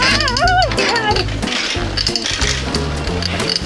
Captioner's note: screaming, laughter